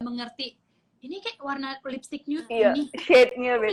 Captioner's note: imitating Andrew